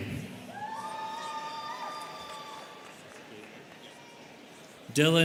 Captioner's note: students cheering